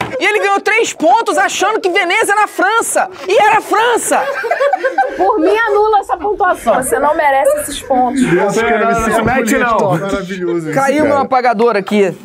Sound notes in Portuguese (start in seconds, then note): 3.8 risadas